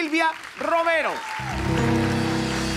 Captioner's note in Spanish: Ovación